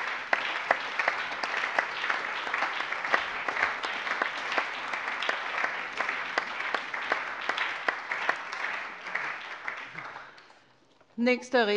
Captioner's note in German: Allgemeiner Beifall